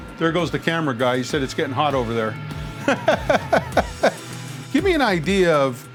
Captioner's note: laughs